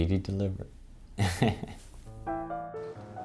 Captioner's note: laughs